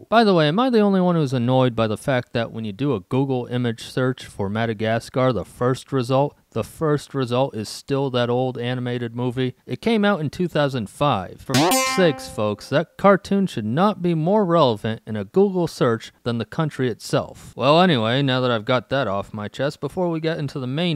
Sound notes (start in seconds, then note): 11.5 spring sound